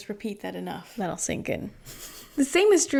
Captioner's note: laughs